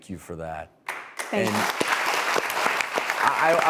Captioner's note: audience applause